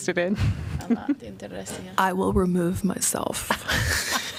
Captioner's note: laughter